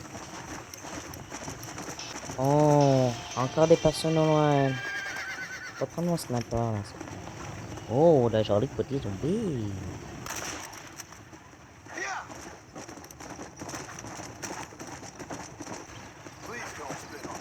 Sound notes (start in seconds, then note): 0.0 sounds of inventory of weapons; 4.2 horse screams and mounts; 13.5 galloping horse; 17.2 horse gallops